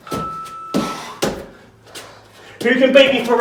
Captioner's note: exhales sharply